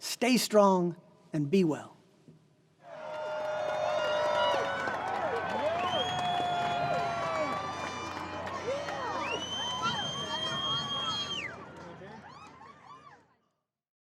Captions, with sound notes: Stay strong and be well. [Applause]